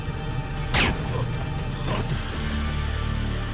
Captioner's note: gun fires; slow music continues